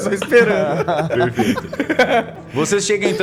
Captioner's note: laughing